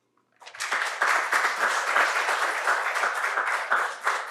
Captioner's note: applause